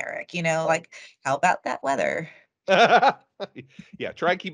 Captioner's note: laughing